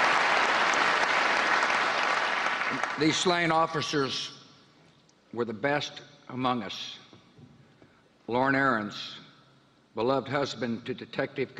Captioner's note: applause